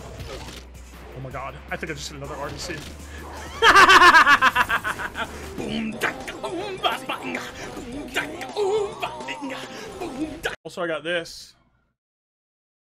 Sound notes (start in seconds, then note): 3.3 laughs maniacally; 4.6 vocalizes